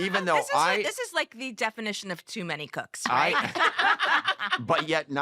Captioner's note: laughter